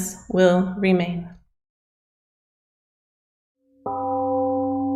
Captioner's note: temple gong rings and fades